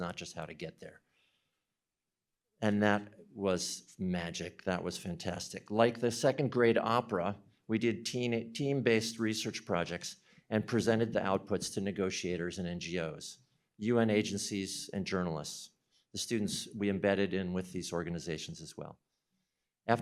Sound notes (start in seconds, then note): none